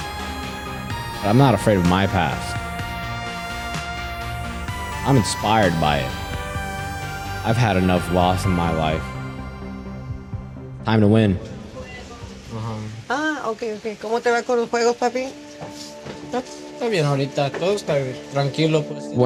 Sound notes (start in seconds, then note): 11.7 music fades; 12.8 in Spanish